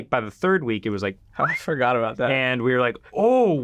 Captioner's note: whistles